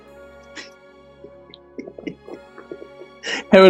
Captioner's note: giggling